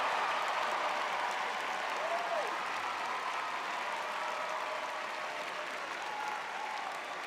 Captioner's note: audience cheering